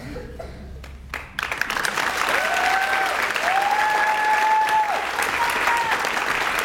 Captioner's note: audience cheers and applauds